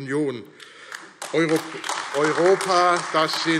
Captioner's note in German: Beifall AfD